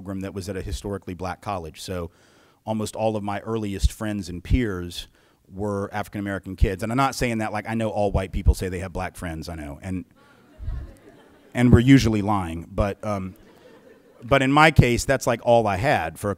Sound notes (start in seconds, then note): 10.3 very soft laughter